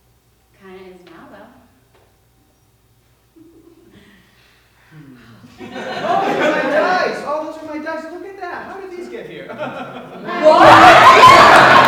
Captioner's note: laughs